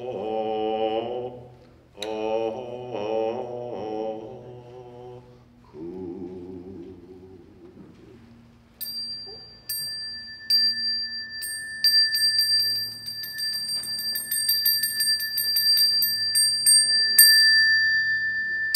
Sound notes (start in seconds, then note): 8.8 bell ringing